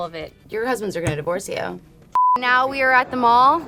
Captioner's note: beep